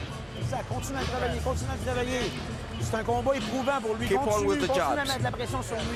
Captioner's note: speaking French